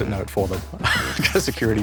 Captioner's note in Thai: หัวเราะ